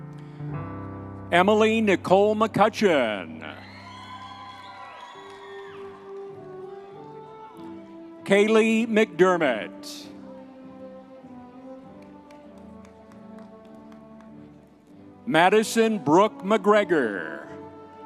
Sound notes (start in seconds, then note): 3.5 audience members cheering